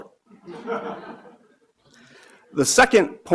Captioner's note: audience laughing